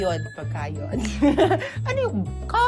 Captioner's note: chuckles